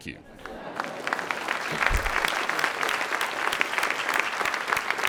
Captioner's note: audience clapping